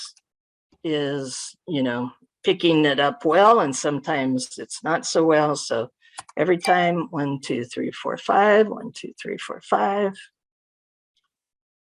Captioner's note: software dings